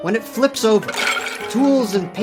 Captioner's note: brushes clatter